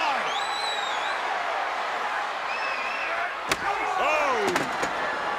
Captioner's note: crowd cheering